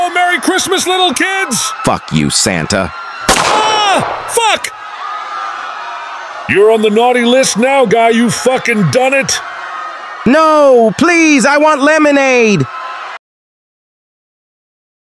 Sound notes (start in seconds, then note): 3.2 gunshot